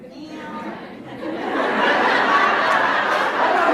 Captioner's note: laughs